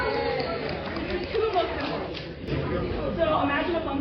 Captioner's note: everyone goes "yayyyy"